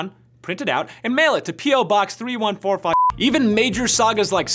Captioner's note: beep